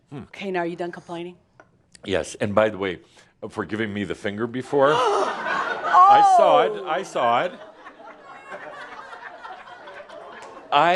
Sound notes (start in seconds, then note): 6.4 laughter